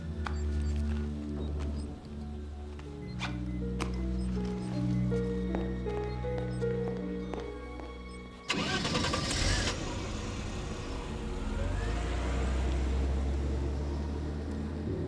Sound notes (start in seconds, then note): 8.4 engine starting; 11.3 soft suspenseful music